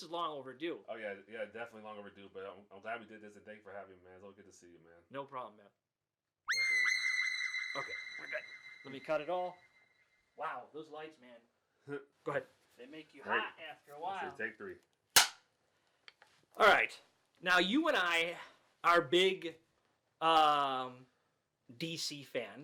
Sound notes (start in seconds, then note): 6.5 high-pitched screaming tone; 15.1 clapper board snapping